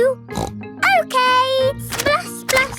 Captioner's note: snorts